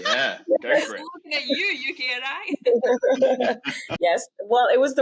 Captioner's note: laughs